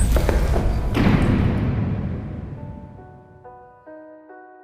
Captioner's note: heavy stone door thuds closed